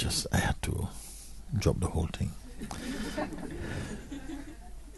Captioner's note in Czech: smích